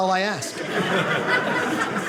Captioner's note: audience laughing